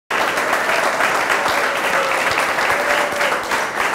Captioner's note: applause